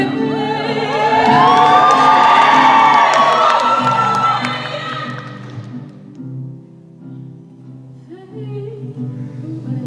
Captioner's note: cheering